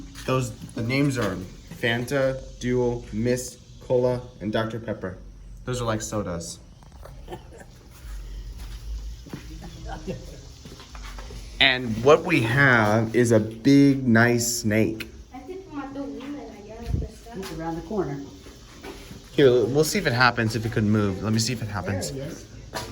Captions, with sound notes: Those-- The names are Fanta, Dew, Mist, Cola, and Dr. Pepper. -Those are like sodas. -[chuckles] And what we have is a big nice snake. It's around the corner. Here, we'll see if it happens if it could move. -Let me see if it happens. -There he is.